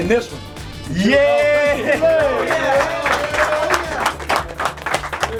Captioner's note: applause